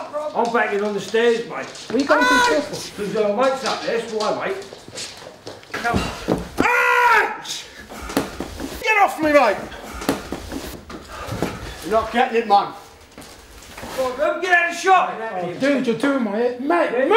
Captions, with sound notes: I'm backing on the stairs mate Why you going to the stairs Cause your mates up there that's why (shouting) : H !! Get off me right now. You're not getting it man Get out the shop Dude you're doing my head in.. MOVE